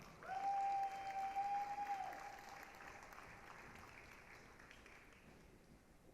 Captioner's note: applause, cheering